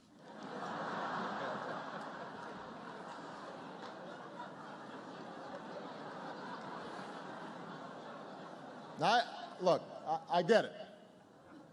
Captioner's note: laughter